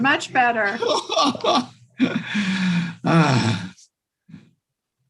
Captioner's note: laughing